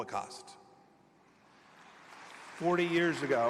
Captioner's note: applause